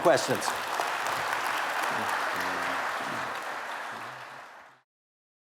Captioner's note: applause